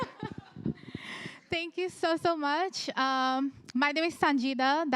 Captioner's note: chuckles